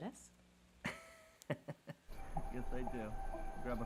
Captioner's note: Nathan laughs